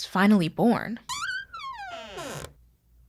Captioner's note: door creak